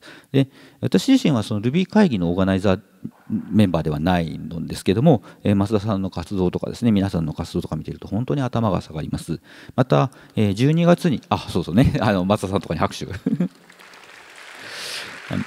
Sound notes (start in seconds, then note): 13.1 chuckles; 13.3 applause